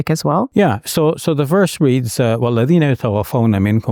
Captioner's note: foreign language